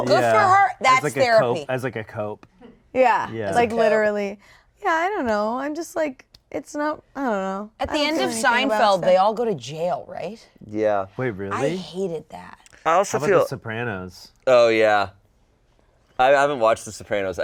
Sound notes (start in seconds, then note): none